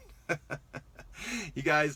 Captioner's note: laughs